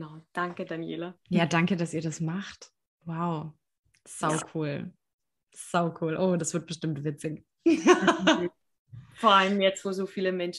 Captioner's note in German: lachen